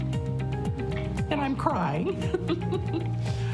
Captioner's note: laughs